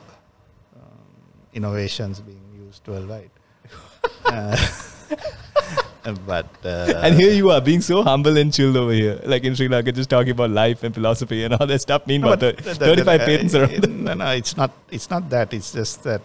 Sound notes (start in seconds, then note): 3.7 laughs